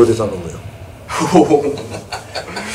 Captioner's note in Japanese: 笑い